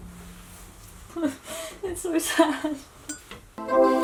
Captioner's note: laughing